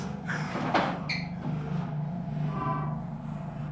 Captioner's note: chair bangs, footsteps running away